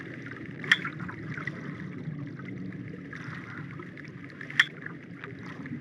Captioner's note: dinging